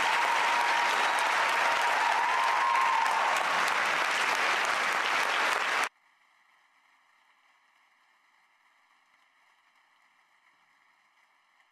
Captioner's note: applause